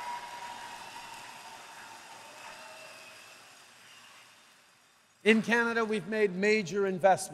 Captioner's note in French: Acclamations